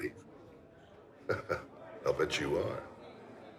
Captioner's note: laughs